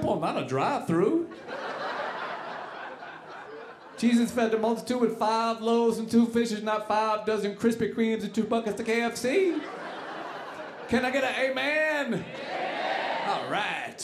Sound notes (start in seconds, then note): 1.2 audience laughing